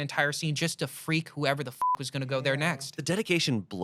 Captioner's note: beep